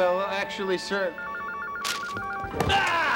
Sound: phone rings

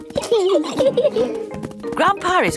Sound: giggling

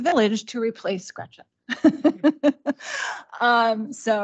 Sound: laughs

